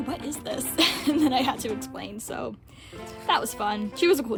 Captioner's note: laughing